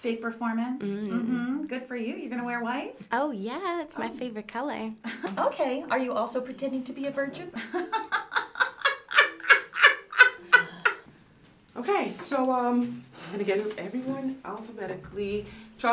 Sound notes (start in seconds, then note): 7.8 Ms. Olivia laughs hysterically